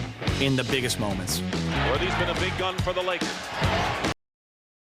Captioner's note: crowd noise